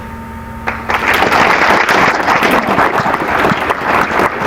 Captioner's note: applause